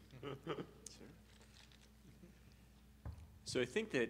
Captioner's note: chuckles